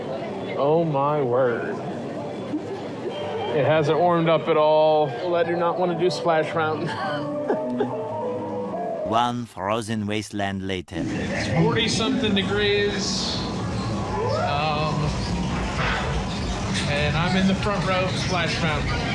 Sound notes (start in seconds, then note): 7.5 laughs